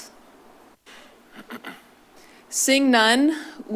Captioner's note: clears throat